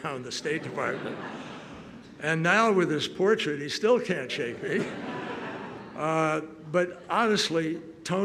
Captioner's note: laughter